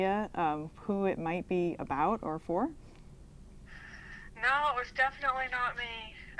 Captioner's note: laughs